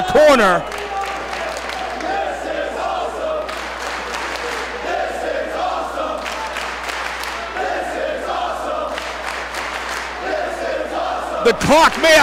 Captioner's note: applause